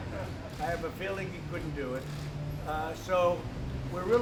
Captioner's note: laughter